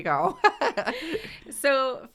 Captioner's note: laughter